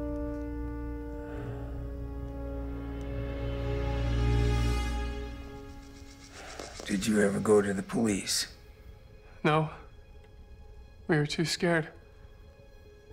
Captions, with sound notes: (Josiah sighs) - Did you ever go to the police? - No. We were too scared.